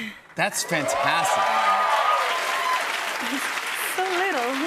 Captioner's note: cheers and applause